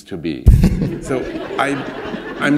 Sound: laughter

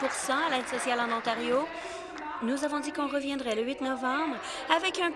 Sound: applause

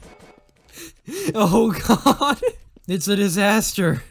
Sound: laughing

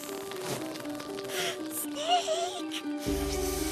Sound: whispers; gasp

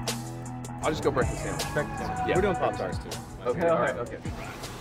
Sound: ordering chatter

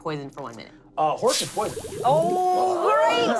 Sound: bubbling

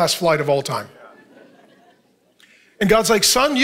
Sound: congregation laughing

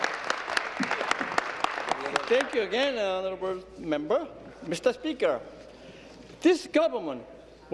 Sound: applause

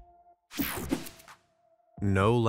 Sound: screen whooshing

